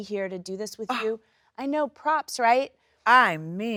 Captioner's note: Sheryl Lee exclaims